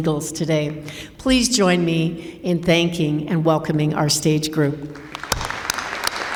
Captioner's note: applause